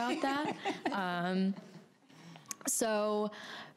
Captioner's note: other panelists laughing